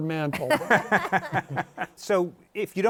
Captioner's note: laughter